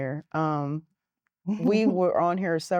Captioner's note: giggling